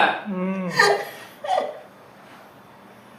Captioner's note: MONICA laughs